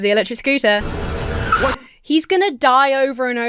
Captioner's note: tires screech; dramatic music